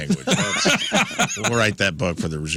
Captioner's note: laughing